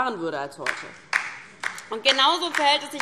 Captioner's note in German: Beifall DIE LINKE